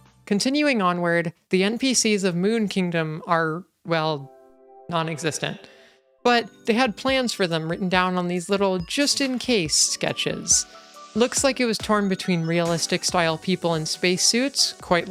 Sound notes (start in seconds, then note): 4.4 reverb